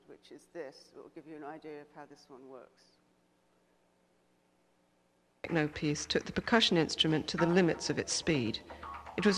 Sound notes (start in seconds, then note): 5.6 voiceover